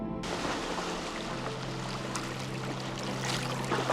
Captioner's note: water splattering